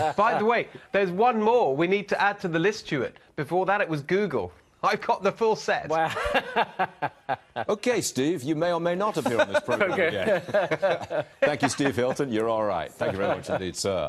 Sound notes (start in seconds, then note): 3.8 laughter; 11.4 laughter